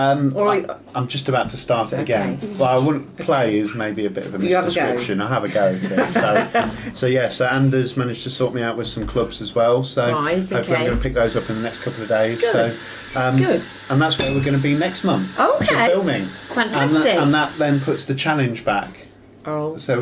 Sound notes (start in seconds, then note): 5.5 laughing